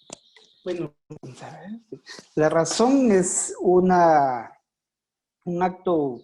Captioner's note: speaking foreign language